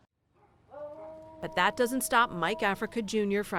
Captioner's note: voice-over